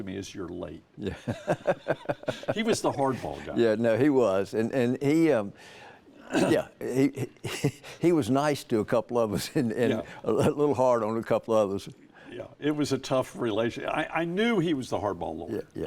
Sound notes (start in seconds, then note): 1.0 chuckle